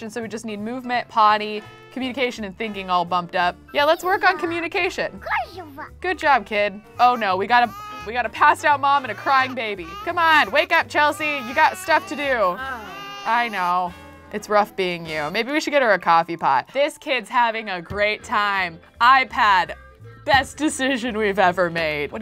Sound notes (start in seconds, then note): 5.2 child babbles